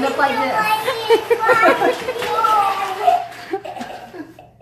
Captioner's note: laughing